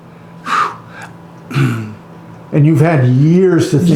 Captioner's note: exhaling